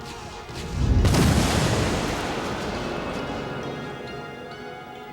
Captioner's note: explosions